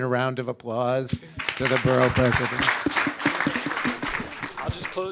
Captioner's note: audience clapping